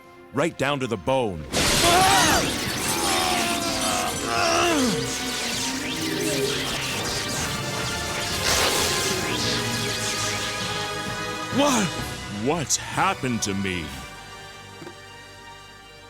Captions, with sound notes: Right down to the bone. (glass breaking) (electrical zapping) What? What's happened to me?